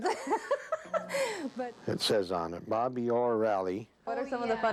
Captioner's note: laughing